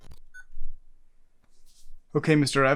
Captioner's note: camera beeps